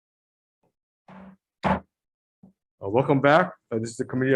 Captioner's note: striking the gavel